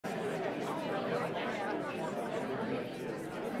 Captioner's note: people chattering